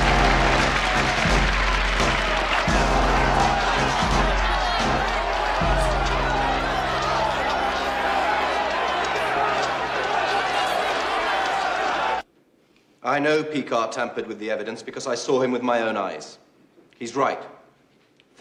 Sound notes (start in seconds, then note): 2.5 all clamoring